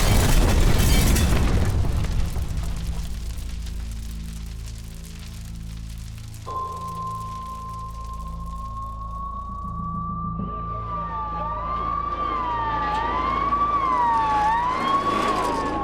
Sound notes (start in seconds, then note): 0.0 thunderous explosion; 0.1 tense music; 10.2 sirens wail